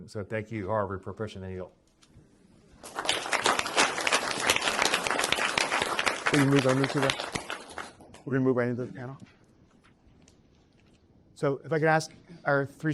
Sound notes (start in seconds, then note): 2.8 applause